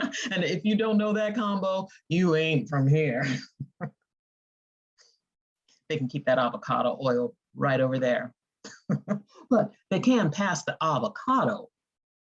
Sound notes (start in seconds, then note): 0.0 chuckling; 4.4 snickering; 8.7 chuckling